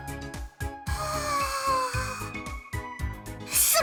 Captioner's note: stunned gasp